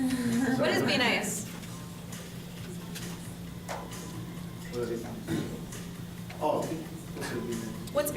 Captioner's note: laughter